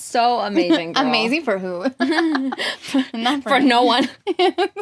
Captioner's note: laughs